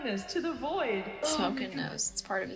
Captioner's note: echoing